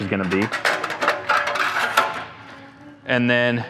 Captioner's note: metal clanging